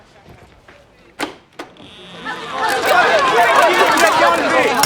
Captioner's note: crowd chattering